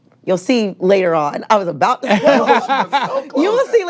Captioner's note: all laughing